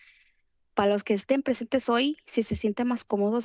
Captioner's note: foreign language